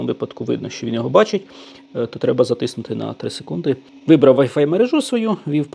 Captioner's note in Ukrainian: сопіння